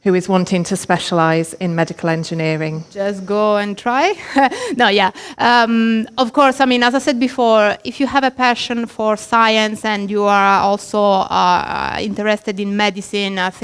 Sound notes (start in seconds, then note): 3.8 laughs